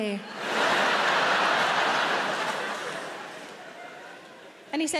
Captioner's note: audience laughing